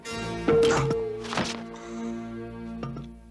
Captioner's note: ringing thud